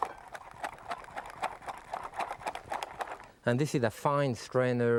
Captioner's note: strainer rattling